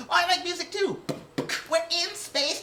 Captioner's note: beat box